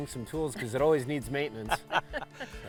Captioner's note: chuckle